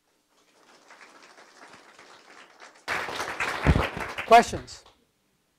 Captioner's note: audience applause